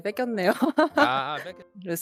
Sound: laughing

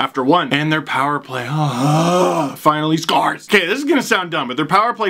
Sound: moans

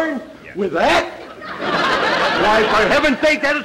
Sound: audience laughter

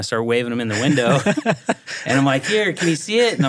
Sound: laughing

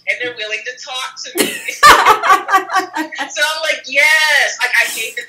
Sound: laughs

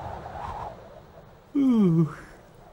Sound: yawns

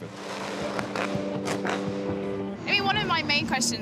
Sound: car rumbles

